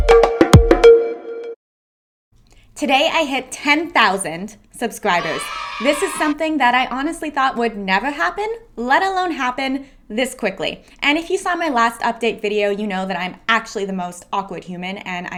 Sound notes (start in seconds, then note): 5.1 cheering